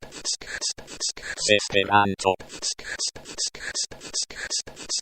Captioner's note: Google Translate voice